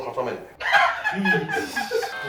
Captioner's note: laughter